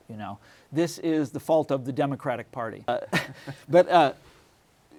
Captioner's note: laughs